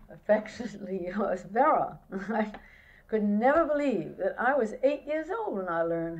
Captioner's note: laughs